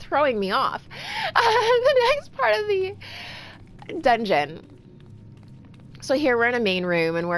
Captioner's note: laughing